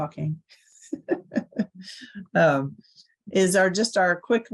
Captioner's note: laughs